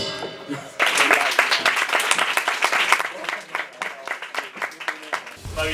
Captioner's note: applause